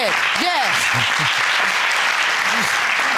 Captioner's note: audience applauding